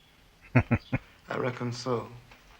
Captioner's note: chuckling